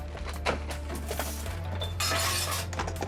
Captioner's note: tense music; objects clattering